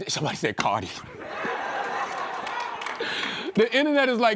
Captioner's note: laughter